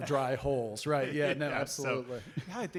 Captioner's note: audience laughter